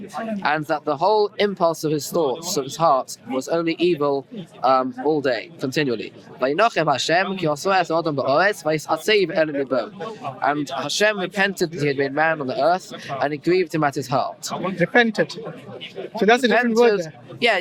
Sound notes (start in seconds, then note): 6.3 Hebrew